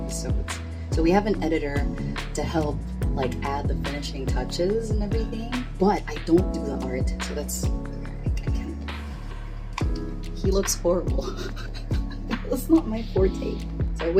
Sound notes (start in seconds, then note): 11.3 laughs